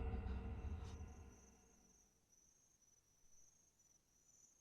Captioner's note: insects chirping